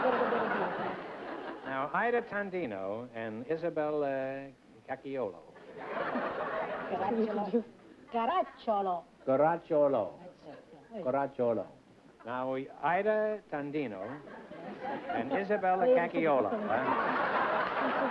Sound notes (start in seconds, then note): 0.1 speaking italian; 5.6 laughter; 16.7 laughter